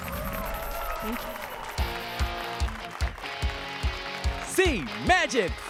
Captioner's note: applause and cheers